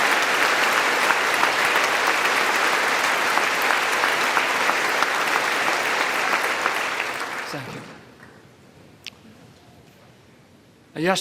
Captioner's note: applause